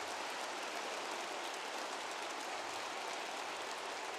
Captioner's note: applause